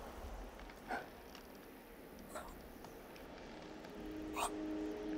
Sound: gasping; somber music

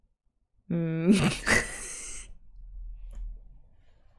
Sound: laughs

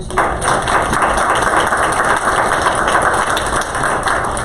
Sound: applause

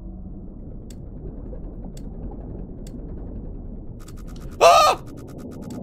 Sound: squawks

